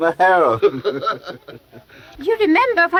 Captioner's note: both laughing